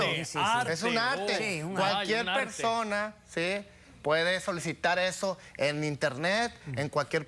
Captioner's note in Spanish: Hablan al unísono